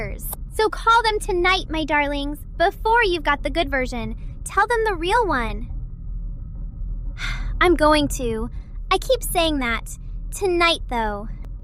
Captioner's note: sighs